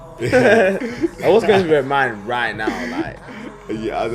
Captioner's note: laughs